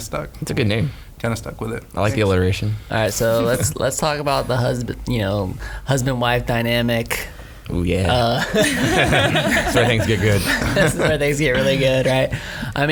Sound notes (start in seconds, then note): 8.3 laughing